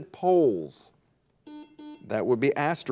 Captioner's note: buzzer dings